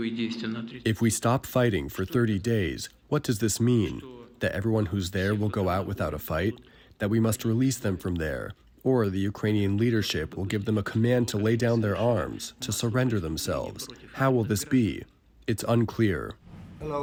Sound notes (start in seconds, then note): 1.4 through translator